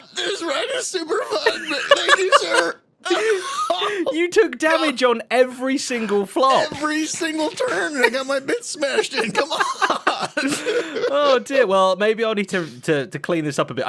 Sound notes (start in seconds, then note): 2.9 laughs